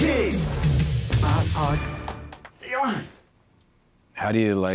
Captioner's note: dancer claps